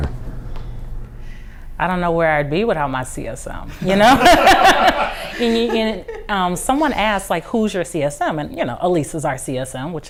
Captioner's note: laughter